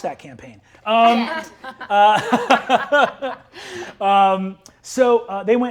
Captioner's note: Brennan laughs